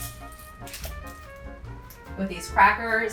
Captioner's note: pepper rattles